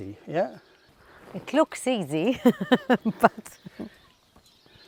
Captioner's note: chuckles